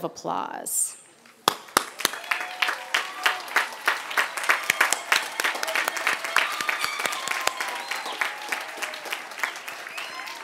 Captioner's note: applause and cheers